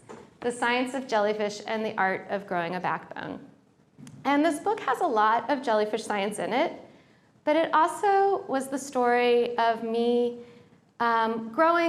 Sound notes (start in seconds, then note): none